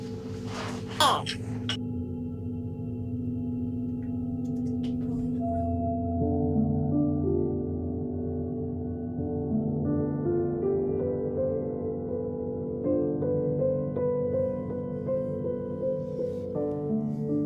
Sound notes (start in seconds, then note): 1.0 somber music; 1.0 child babbling; 13.8 somber music continues